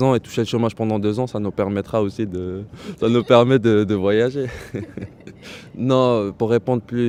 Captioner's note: laughter